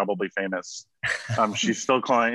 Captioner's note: men laughing